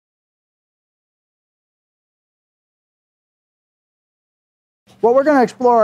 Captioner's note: silence